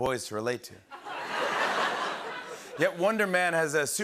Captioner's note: laughter